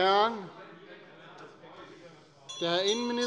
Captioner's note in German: Unruhe - Glockenzeichen des Präsidenten